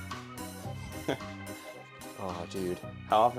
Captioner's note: incredulous chuckle